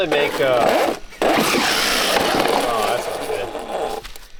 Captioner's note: crashing